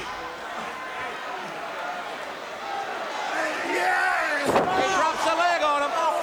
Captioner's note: crowd cheering